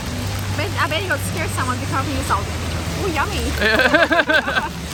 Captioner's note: laughs